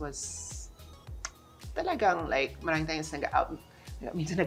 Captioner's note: clicks tongue